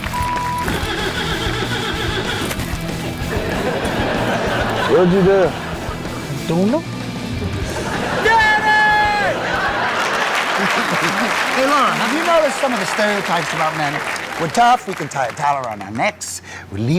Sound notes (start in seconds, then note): 0.6 engine trying to turn over; 7.8 shouts; 13.7 audience applauding